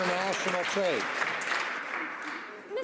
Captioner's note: some Applause